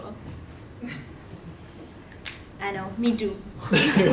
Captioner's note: laugh